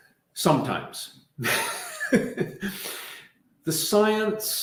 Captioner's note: laughing